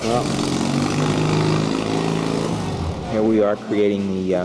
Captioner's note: motors and overlapping voices